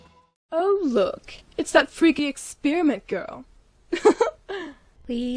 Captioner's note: laughs